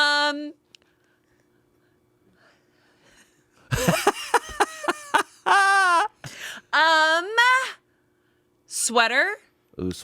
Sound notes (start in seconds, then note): 3.7 everyone laughs